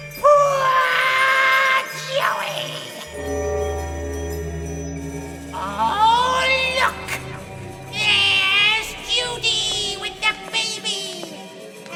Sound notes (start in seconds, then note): 3.1 bell tolls